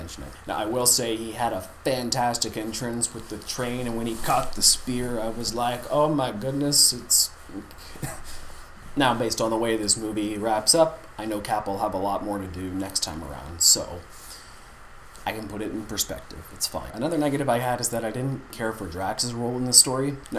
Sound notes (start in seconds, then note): 7.9 chuckle